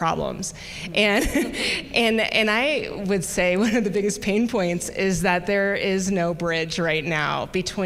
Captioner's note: chuckle